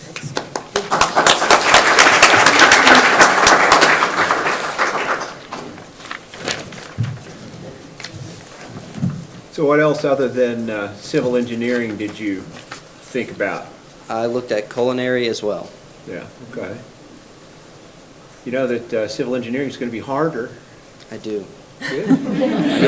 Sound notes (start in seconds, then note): 0.0 people clap; 5.4 paper rustles; 21.8 people laugh